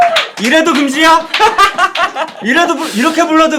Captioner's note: laughing